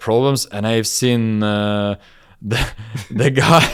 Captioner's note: laughs